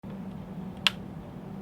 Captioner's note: click